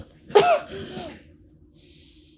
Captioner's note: coughs